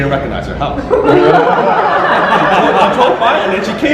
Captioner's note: audience laughter